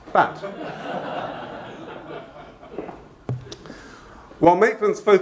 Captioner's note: laughing